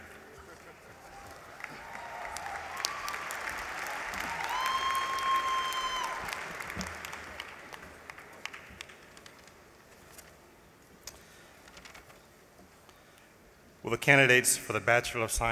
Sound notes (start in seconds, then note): 3.5 applause